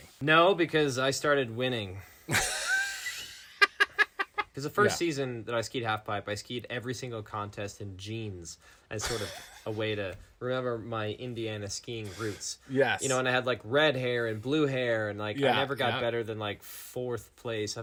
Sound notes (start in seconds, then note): 2.3 laughing